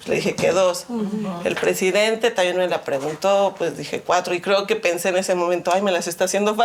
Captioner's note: continues speaking in Spanish